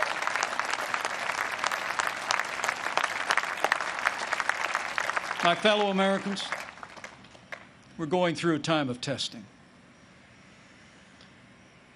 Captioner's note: applause